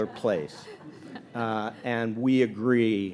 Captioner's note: audience laughing